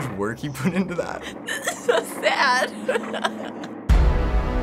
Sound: laughing; dramatic chord

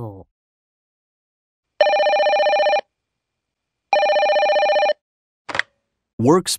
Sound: telephone rings

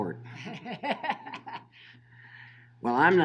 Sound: laughing

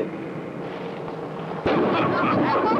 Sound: ball strikes bowling pins; teen laughter

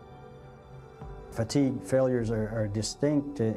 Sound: voiceover

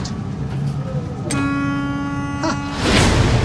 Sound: horn honking

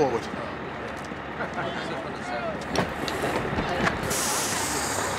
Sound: chatter

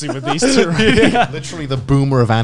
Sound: laughs

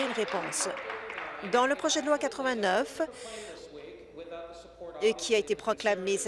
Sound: applause

